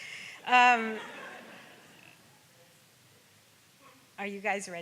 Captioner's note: audience laughs